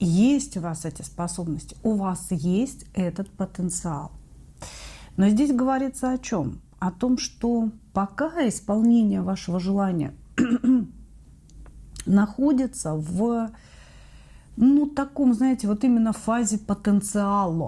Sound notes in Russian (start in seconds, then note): 10.3 кашель; 10.4 откашливается